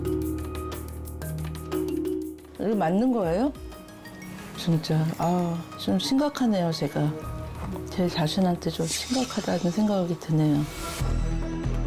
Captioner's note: voiceover